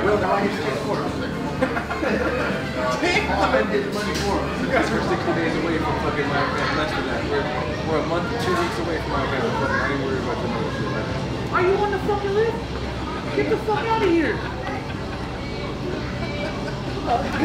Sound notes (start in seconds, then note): 1.2 laughing; 15.9 both laughing